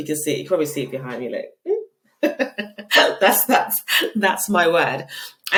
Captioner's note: laughing